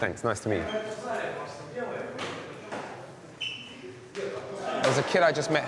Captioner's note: people chattering